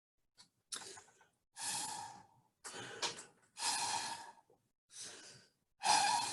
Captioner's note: blowing through straw